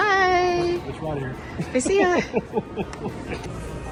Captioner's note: laughs